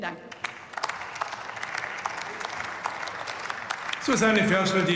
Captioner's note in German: Beifall